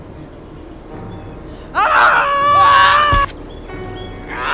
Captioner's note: screaming